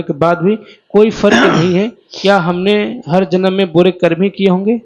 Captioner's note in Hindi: गला साफ़ करने की आवाज़